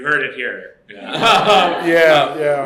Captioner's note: laughter